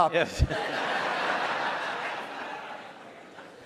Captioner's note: audience laughs